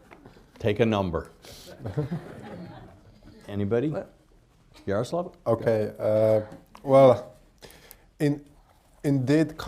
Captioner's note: laughter